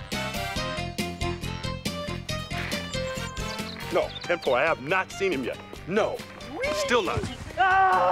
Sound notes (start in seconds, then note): 5.3 yelling